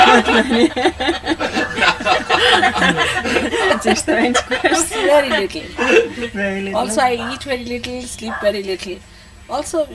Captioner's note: laughter